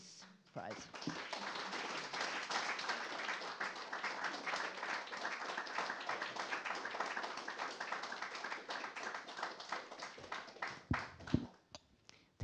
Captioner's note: applause